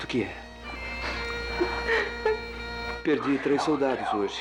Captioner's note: sobs